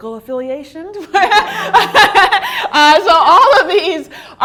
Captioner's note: laughter